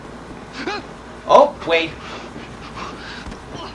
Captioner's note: wade whimpers